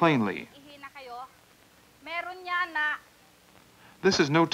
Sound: Doctor continues explanation in Tagalog

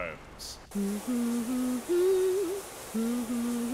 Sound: humming

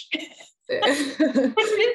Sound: laughs

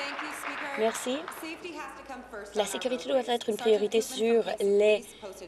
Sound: applause

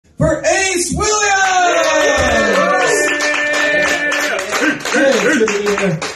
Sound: applause

